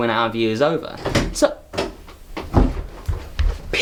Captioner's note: door opening and closing